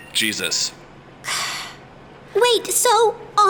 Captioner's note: sighs